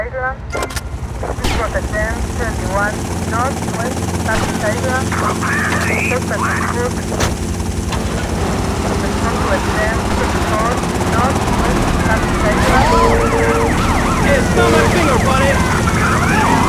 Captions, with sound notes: (gunfire) Hey, smell that finger, buddy.